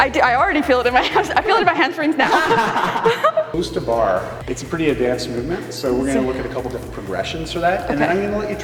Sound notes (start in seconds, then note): 2.5 laughs